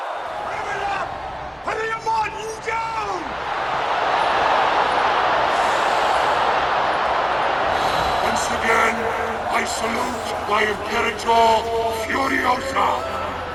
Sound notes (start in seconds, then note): 3.5 crowd cheering